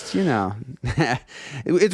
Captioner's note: laughing